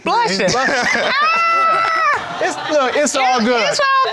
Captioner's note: exclaiming